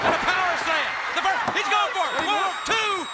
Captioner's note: crowd cheering